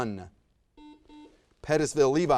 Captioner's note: buzzer buzzes